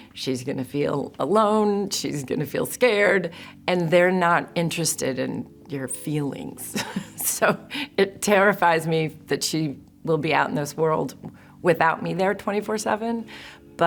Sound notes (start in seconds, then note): 6.7 chuckles